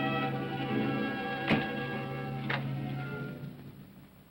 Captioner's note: ominous music; door closes